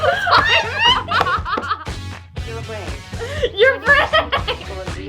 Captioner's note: laughing